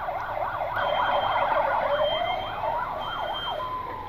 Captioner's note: sirens